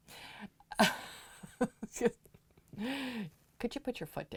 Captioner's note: chuckling